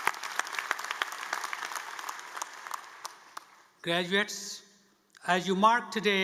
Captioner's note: applause